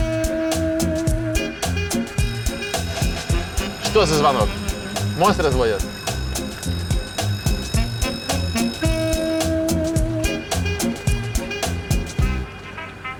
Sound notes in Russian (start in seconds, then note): 1.9 Слышен технический сигнал